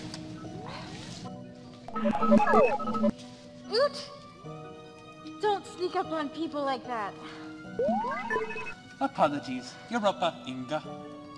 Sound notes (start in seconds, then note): 1.9 beeps; 7.8 chirps